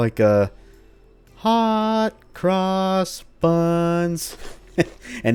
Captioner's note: chuckles